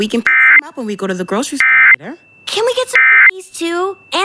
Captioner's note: alert Tones Following